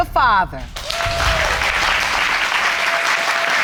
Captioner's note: audience applauds